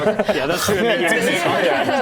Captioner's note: nom